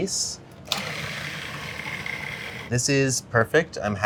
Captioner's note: processor whirring